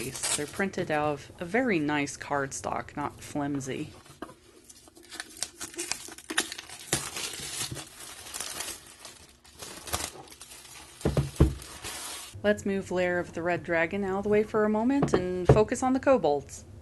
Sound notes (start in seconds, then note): 4.6 an absolute symphony of crinkles and rips as the cellophane gives free!